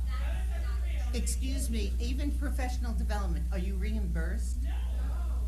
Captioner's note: off camera groans